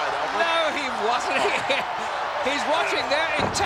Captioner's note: laughs